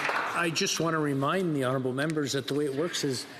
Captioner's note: some Applause